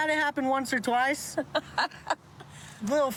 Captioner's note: laughs